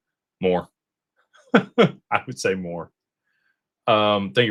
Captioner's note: laughter